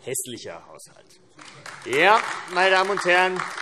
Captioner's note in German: Beifall AfD